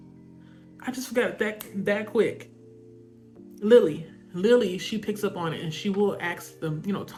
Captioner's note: snaps fingers